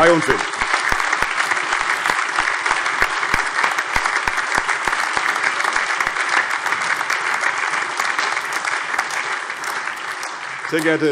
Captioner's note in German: Allgemeiner Beifall